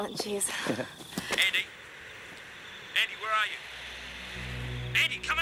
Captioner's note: two-Way Radio